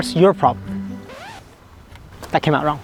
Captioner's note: record scratches